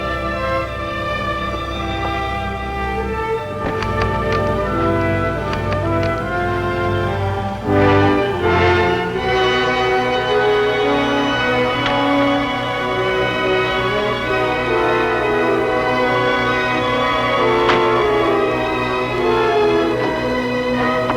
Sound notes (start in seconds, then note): 0.2 gentle music; 3.6 box banging; 5.3 metal clunking; 9.6 gentle music; 17.6 car door banging